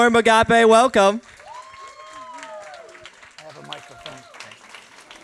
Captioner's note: applause